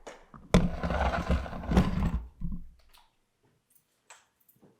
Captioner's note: camera scraping